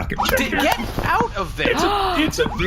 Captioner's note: gasps